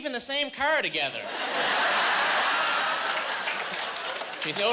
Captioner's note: laughing